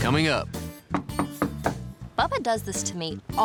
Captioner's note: knock on door